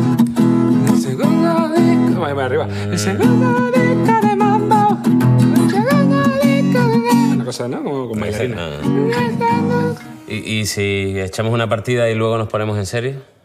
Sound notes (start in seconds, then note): 8.4 hums